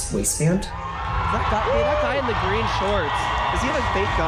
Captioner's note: crowd roaring